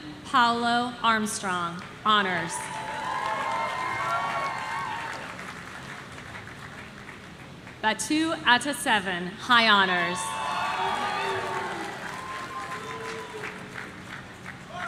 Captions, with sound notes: Liam Paolo Armstrong, Honors. Batu Ataseven, High Honors. (audience cheering)